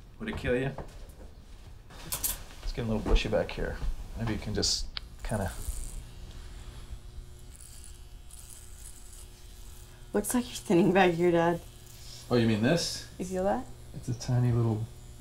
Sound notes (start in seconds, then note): 5.8 trimmer buzzes